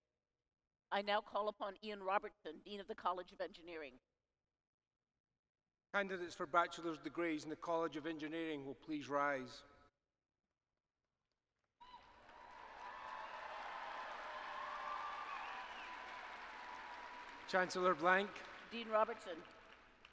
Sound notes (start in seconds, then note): 11.8 applause